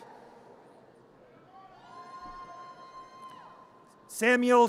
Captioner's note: audience cheers